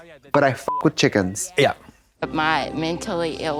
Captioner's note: beep